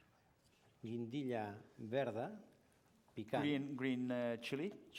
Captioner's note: non-english speech